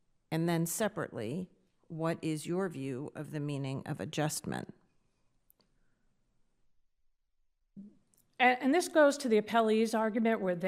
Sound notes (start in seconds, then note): none